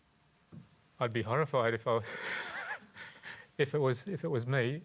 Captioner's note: laughs